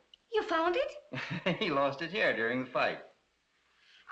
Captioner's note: chuckling